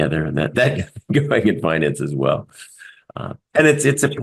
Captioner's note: laugh